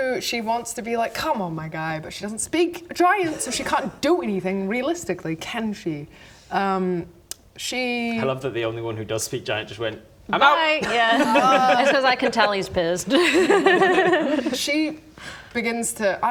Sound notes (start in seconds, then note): 13.2 no regrets giggles